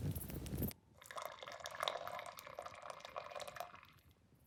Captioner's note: drink pouring